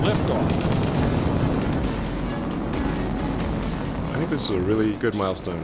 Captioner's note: rocket roaring